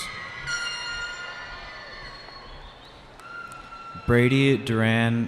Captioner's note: cheering